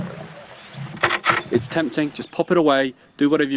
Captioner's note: sound of branch breaking